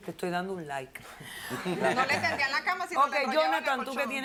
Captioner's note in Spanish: Risas